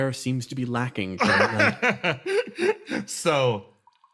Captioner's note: laugh